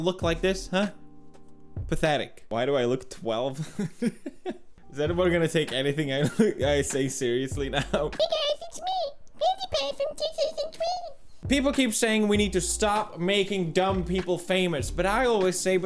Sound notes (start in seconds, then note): 3.5 chuckles; 7.6 laughs